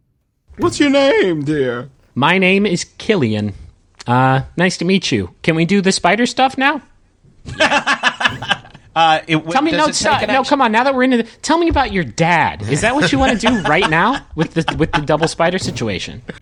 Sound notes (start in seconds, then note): 7.4 Merle laughs